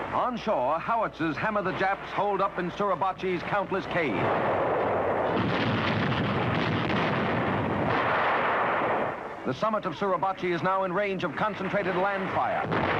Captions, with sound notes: Onshore, howitzers hammer the Japs hold up in Suribachi's countless caves. (guns blasting) The summit of Suribachi is now in range of concentrated land fire.